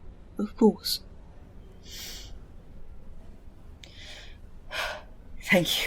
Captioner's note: Remus exhales